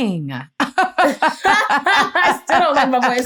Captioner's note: laughter